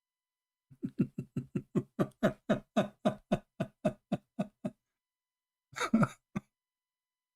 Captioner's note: Ketawa